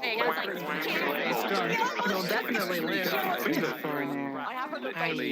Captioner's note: group chatters happily